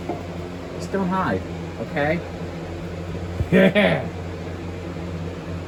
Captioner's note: Caprice chuckles